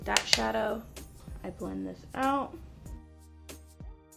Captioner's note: tapping